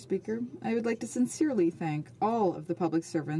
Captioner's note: speaking French